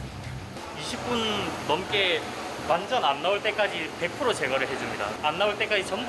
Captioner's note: foam